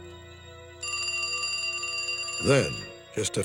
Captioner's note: phone ringing